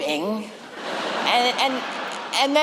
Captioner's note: laughter